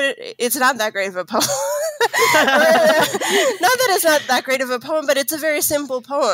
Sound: laughs

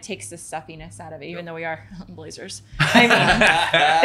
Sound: chuckles; everyone laughing

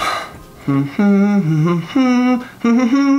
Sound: humming

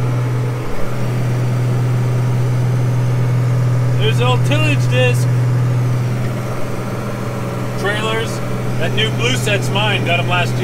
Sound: tractor sound

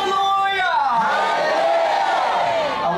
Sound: audience & translator respond shouting

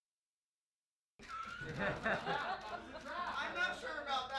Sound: laughing

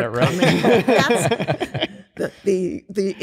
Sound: laughter

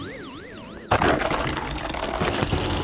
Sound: descending bloop; wheels rattling; crashing

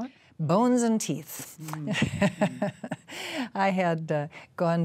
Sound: laughs

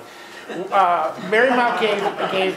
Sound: laughing

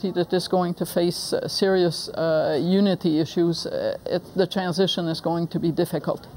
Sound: none

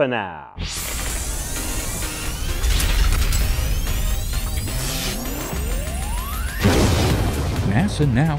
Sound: sound Effects

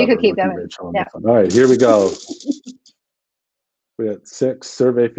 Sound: laughs

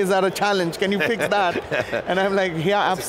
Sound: laughs

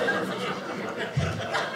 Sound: audience laughing

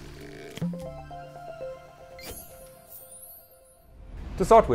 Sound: playful chime

